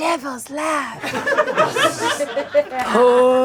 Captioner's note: audience laughing